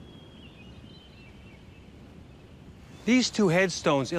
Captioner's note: birds chirping